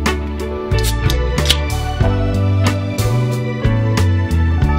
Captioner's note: can opening